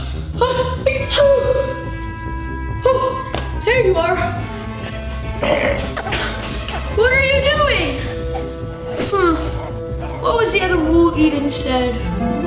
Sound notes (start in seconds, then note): 1.0 sneezing